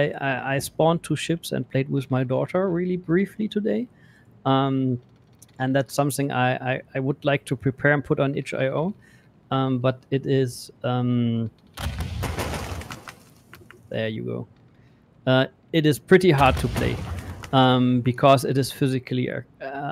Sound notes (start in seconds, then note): 11.8 volley of booming sounds